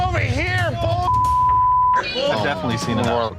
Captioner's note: beep